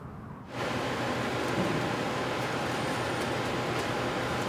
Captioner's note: machines whirring